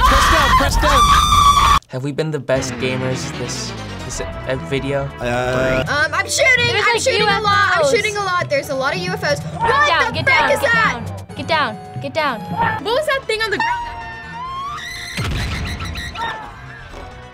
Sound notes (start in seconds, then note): 13.9 screams